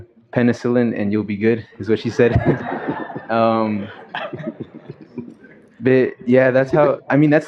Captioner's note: laughter